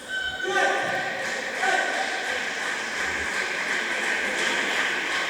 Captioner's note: applause